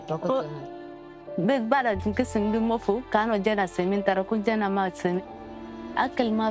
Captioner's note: speaking in foreign language